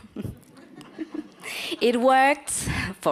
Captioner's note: audience laughs